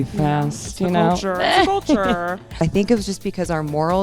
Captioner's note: laughs